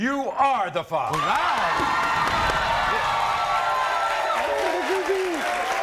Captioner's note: crowd cheers